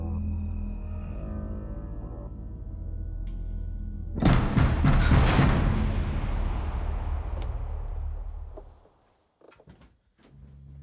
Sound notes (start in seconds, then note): 4.3 banging on door